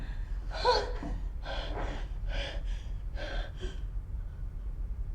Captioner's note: sigh; heavy breathing